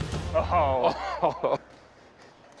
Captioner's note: laughs